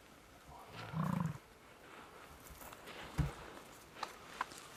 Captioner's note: animal grunting